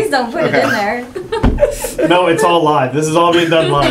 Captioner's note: laugh